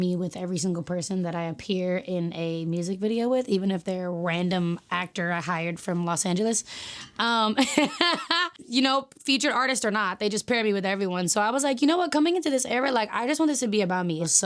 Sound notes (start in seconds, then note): 7.5 laughing